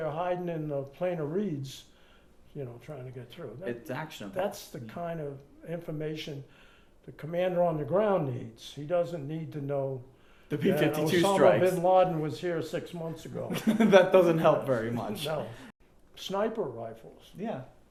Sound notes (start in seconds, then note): 13.4 laughing